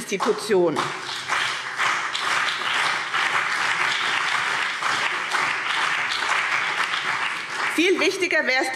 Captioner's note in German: Beifall BÜNDNIS 90/DIE GRÜNEN und vereinzelt CDU